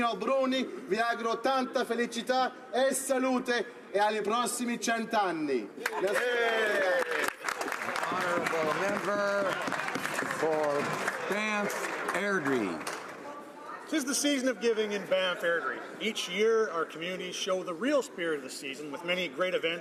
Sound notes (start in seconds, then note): 5.9 speaking Italian; 12.0 some Applause